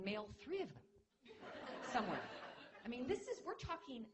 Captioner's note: laughter